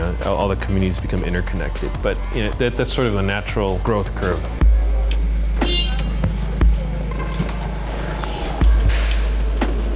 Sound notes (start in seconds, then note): 5.5 horn honks; 6.4 motorcycle rumbling